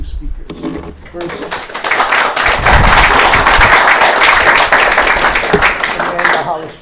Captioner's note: applause